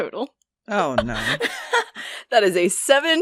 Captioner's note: in a small voice; Elizabeth laughs